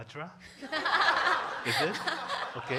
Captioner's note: congregation laughing